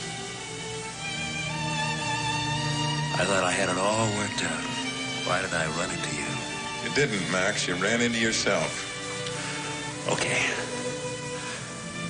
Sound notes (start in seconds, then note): none